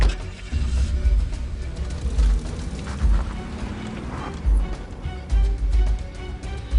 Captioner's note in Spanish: Ruido del motor